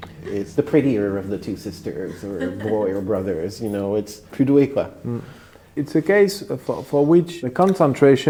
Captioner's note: continues in French